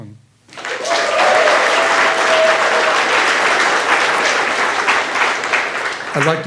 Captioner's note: audience applauding